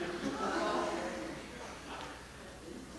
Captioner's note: laughter